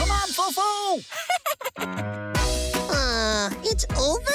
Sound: FoFo laughs

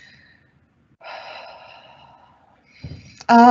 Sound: sighing

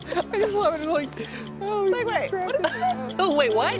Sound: laughter

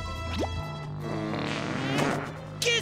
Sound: smooching

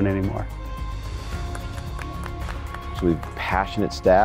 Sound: loud clapping

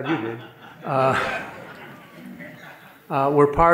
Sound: audience laughing

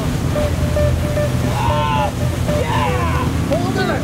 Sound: man cheering

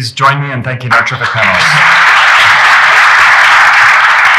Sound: applause

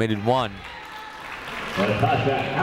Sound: crowd applauding

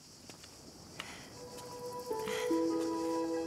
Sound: taking deep breaths

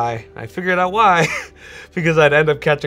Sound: participant laughs

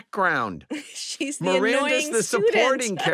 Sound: laughs

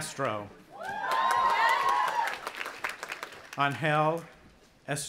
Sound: audience applauding and cheering

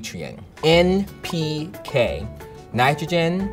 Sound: sound effect pops

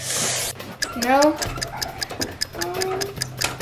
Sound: timer ticking

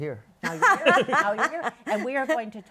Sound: laughter

